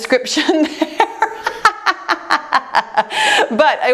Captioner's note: laughs